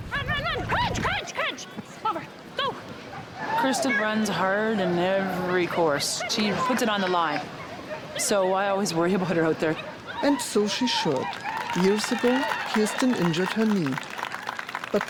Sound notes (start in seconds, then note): 11.0 crowd applauds and cheers